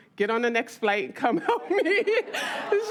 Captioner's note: audience laughs; laughs